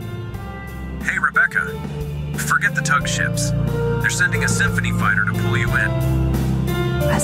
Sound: intercom

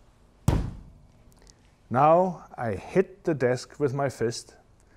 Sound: fist thumping

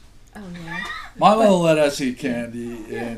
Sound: voiceover

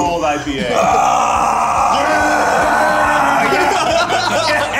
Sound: Eugene screams; Ned grunts; group laughs

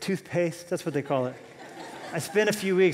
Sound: laughter

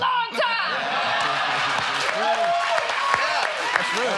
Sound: laughter

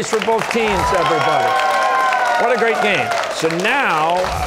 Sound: cheers and applause

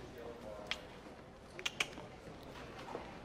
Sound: ABED clicks his tongue twice; PIERCE clicks his tongue

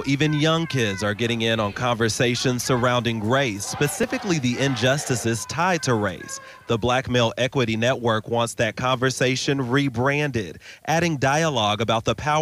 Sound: protesters chanting

